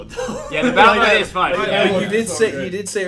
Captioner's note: laughter